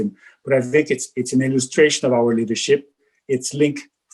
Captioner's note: murmurs